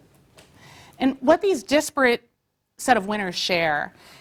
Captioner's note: none